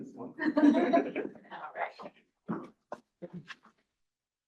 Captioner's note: all chuckling